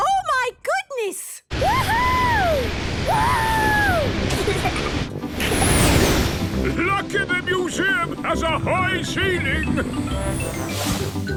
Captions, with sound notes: - Oh, my goodness! - Wooohooo!! - (rocket thrusting) - Lucky the museum has a high ceiling!